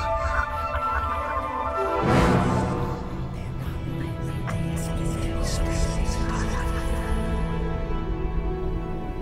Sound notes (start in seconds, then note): 3.5 Celtic whispers